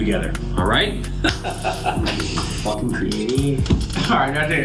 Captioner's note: laughing